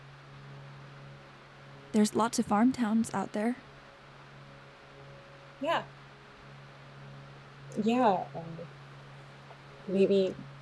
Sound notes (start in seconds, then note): none